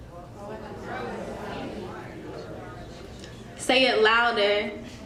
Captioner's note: crowd murmurs